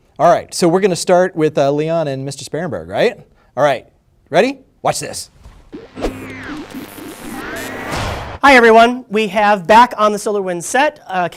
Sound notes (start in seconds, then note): 5.6 antenna transmitting electrical signals